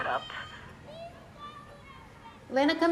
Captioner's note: kids yell outside